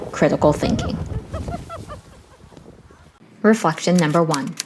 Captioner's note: woman laughs